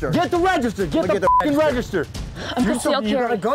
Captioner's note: beep